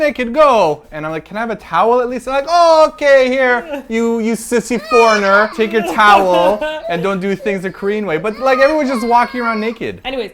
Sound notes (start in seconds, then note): 4.3 sounds of a baby crying; 5.5 laughs